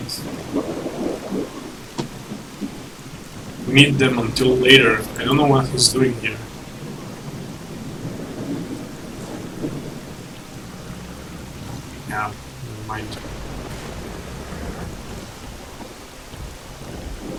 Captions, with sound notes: Usually you do not meet them until later and I don't know what he's doing here. *Growling from unknown direction* Yeah, nevermind... *growling yet again*